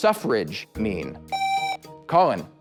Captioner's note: buzzer